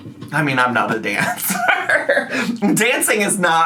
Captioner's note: laughs